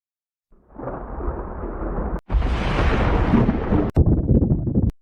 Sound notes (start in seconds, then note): 0.6 thunder rumbling